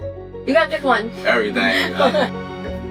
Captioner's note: laughs